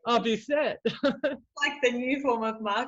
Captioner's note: chuckles